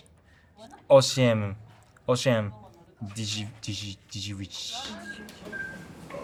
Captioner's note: counting in Polish